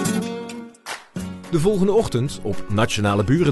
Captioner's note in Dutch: voice-over